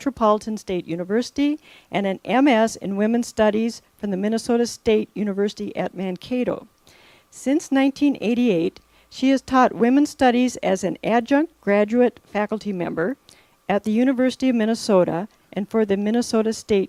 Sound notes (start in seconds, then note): none